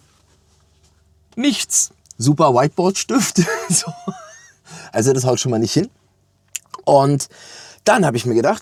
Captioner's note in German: gelächter